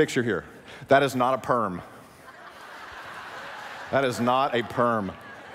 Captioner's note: laughing